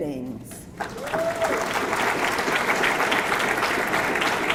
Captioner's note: audience clapping